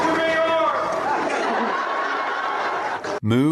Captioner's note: crowd cheers, laughs